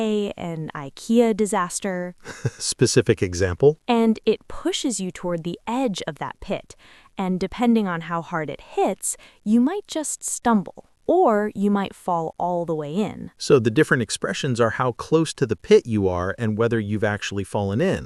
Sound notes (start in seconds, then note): 2.2 laughs